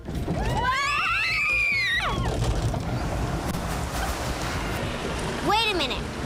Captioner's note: screaming